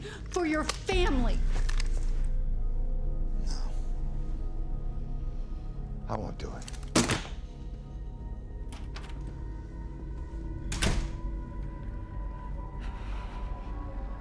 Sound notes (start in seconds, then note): 6.9 gun clatters on table; 8.1 tense pensive music